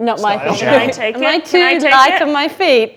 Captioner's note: overlapping chattering